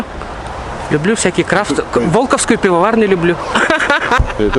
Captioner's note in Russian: смех